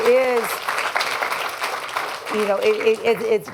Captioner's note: applause